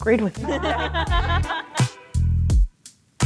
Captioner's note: people laughing; upbeat hip-hop music